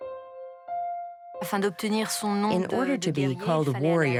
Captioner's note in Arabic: الصوت المنطوق باللغة الفرنسية